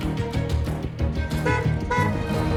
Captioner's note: honking